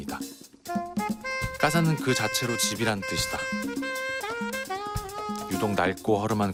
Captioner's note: Spanish